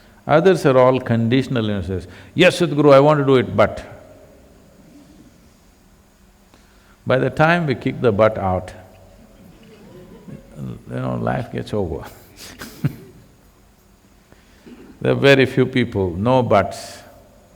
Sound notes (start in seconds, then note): 9.2 laughter; 11.9 laughs